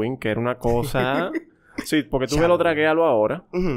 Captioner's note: laughs